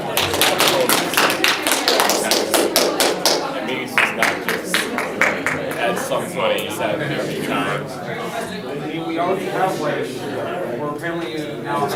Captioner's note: clapping